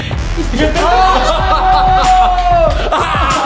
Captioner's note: laughs